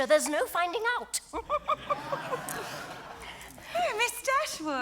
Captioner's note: audience laughs